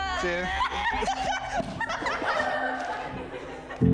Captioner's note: all laughing